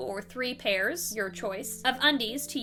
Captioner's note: whispers